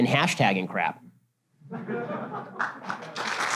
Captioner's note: audience laughter; audience applause